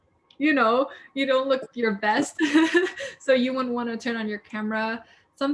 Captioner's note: laughs